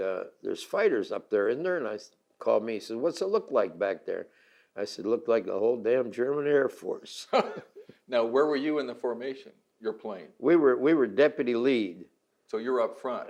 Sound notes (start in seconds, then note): 7.2 laughs